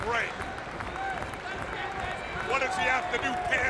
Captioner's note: crowd chatter